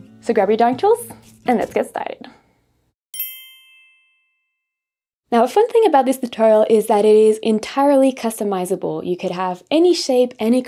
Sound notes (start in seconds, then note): 3.1 bell dings